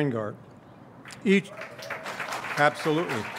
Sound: audience cheers and applauds

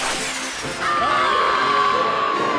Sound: screaming

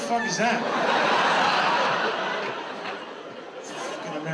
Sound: audience laughs

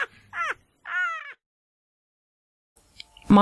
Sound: more laughter

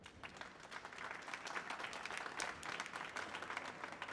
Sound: applause

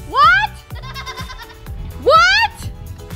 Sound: laughter

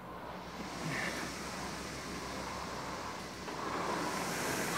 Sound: machine whirring

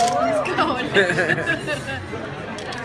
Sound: laughing

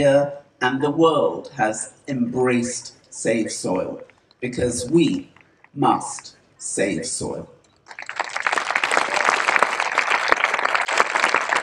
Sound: applause

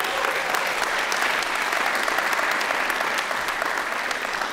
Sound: audience clapping

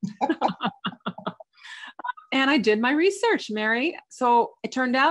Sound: chuckles

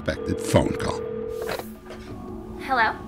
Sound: phone ringing

